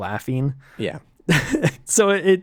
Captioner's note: laughs